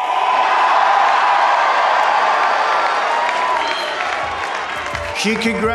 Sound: cheering

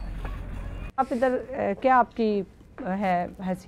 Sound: speaking urdu

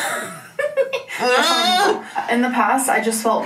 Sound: both laughing; groaning

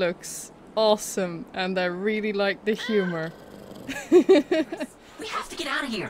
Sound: laughs

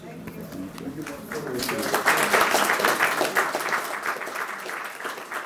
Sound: applause

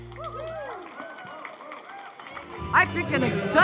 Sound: audience applauding

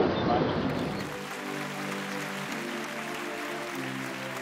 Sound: audience clapping

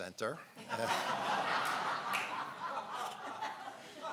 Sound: laughing

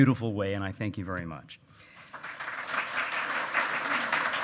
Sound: loud clapping

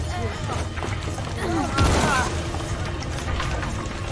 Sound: heaving

